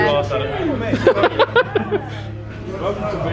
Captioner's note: laughing